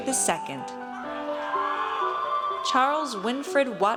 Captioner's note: audience cheers